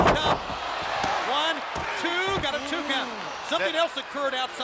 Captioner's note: hand pounding